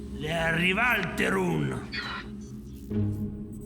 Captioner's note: Donkey's bray; tense music playing